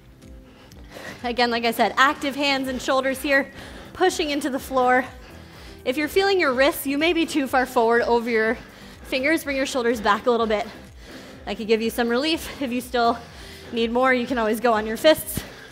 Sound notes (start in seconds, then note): 0.1 breatehs heavily